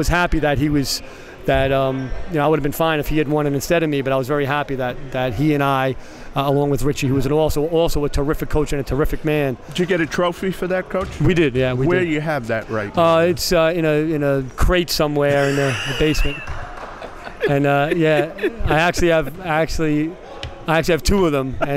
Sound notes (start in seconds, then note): 15.3 laughing